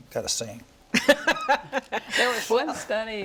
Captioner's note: laughs